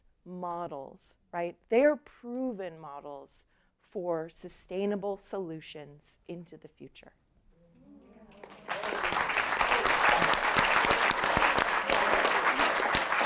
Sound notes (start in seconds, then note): 8.3 applause